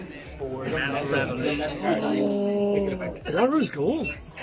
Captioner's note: gasps